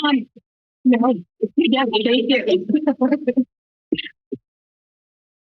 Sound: background conversations

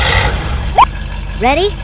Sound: engine revs; beep

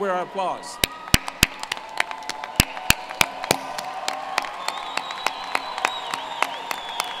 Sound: applause

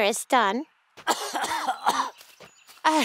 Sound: coughing

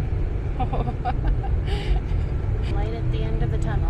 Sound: laughter

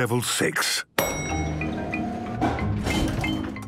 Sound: elevator dings

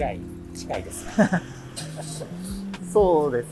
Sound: laughs

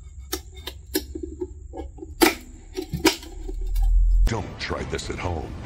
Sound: wood crackling

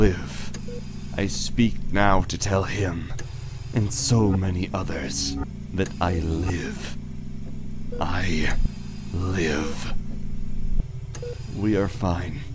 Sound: mechanical ambiance

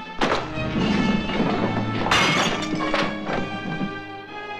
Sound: crashing; dramatic music

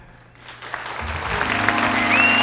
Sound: audience applauding; slow, sentimental music

